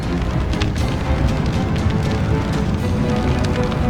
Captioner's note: flames whooshing